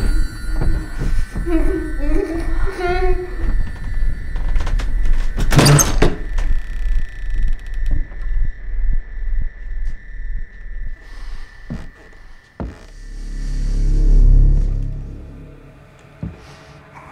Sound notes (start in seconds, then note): 1.2 muffled sobbing; 5.5 door creaks